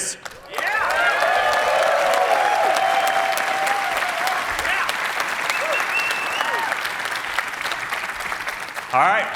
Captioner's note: cheering